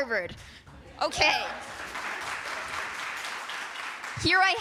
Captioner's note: applause